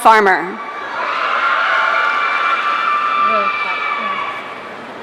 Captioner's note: audience cheering